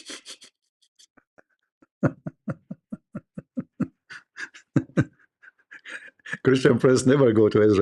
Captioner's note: Ketawa